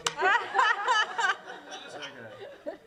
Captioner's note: laughter; mumbling